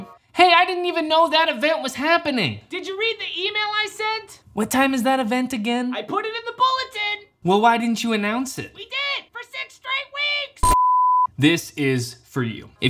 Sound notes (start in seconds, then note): 10.6 beep